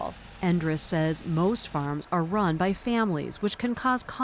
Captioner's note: voice-over